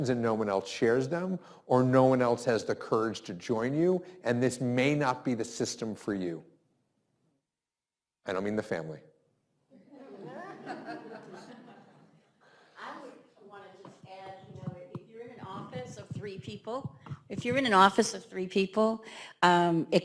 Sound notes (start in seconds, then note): 9.8 laughs